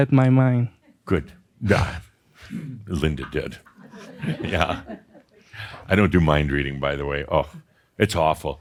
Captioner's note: a few chuckles